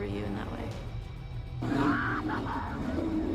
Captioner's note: screams